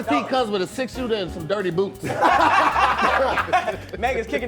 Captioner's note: laughing